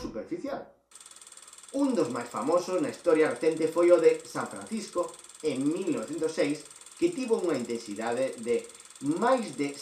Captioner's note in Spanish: sonido de proyección de cine